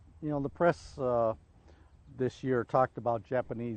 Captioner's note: voiceover